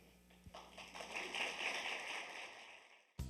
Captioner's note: applause